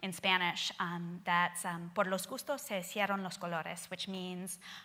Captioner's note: speaking Spanish